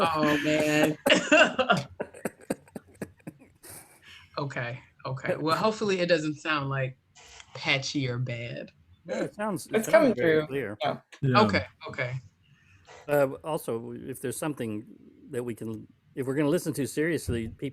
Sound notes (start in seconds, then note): 0.0 laughter